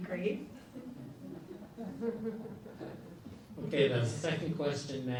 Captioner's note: audience laughs